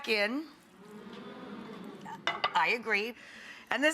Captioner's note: audience moans